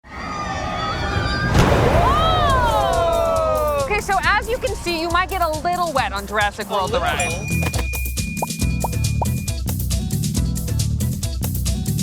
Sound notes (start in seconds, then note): 0.2 people on ride screaming; 0.8 water whooshes; 7.7 upbeat music